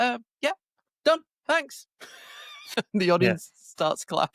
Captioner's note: laughs